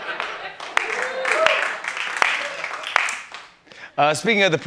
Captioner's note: laughter; cheers and applause